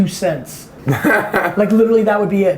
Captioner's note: laughs